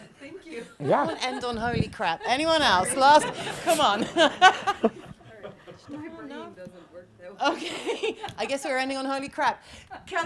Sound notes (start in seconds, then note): 3.1 laughter